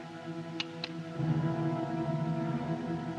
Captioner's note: hammer Cocks